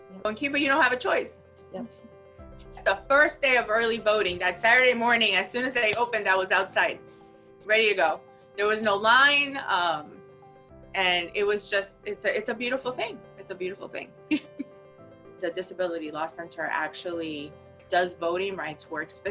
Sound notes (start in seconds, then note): 14.3 chuckles